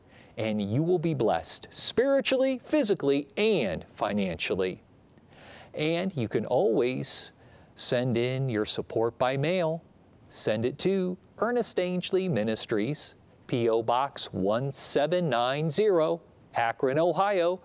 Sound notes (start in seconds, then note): none